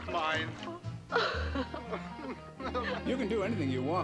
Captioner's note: both chuckle